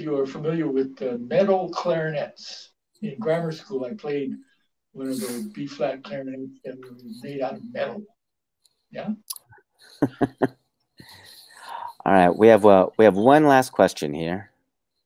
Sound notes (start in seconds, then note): 9.9 laughs